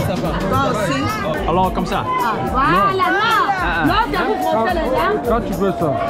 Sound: speaking foriegn language; man speaking foriegn language

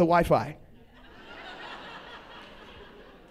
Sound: laughter

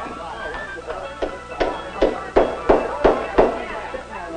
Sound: hammering

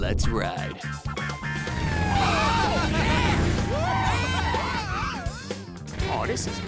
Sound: upbeat music playing; laugh; yell

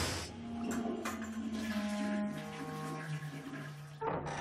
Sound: toilet flushing

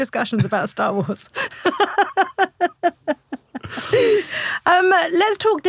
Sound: laughing

